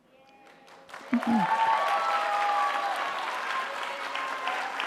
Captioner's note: audience applauding